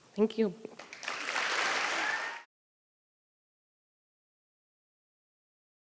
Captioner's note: audience applauding